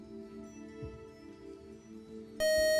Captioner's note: time up buzzer